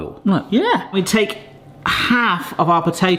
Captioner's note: none